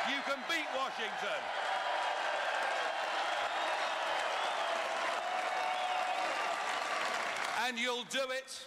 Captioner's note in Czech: Potlesk